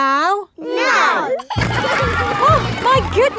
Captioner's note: giggling